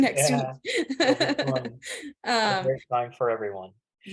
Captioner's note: laughing